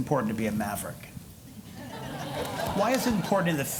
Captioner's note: laughter